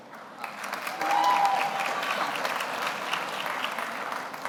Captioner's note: audience applauds